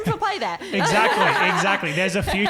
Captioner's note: laughing